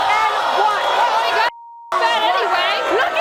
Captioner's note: beep